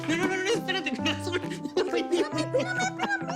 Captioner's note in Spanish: Risas